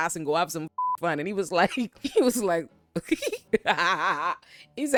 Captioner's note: laughing